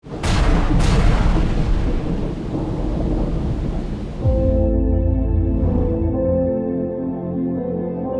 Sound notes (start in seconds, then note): 0.0 thunder sound; 4.5 majestic music